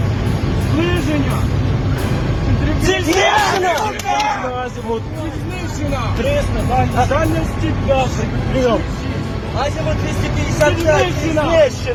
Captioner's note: clapping !!!!!!!!!!